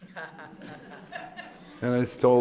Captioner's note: laughter